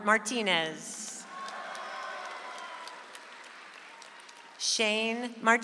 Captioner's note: audience applauds